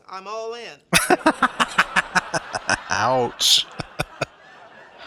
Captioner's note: laughing